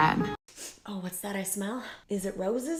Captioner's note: sniffs